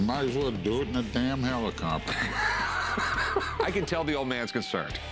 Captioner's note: laughs